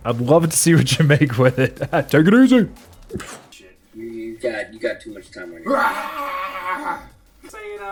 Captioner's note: screams in Dinosaur